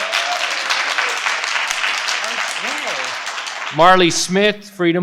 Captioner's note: participants applaud